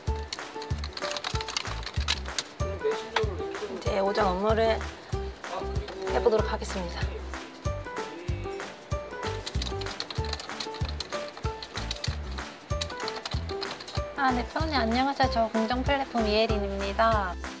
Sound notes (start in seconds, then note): 9.2 typing